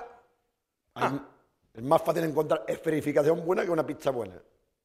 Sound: speaking spanish

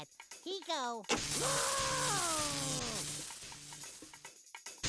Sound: Sylvester screaming; electric buzzing

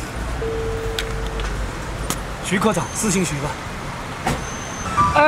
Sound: phone ringing

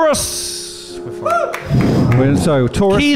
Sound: exhales

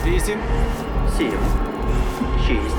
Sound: man 3 in English

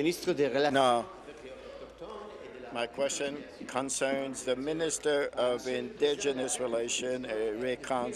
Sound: speaking in French

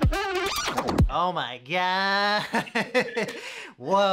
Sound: low electronic music; laughs

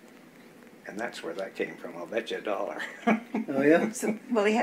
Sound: laughs

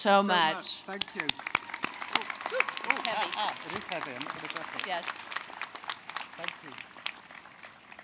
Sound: applause

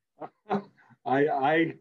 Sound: chuckles

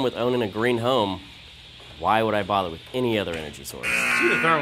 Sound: buzzer

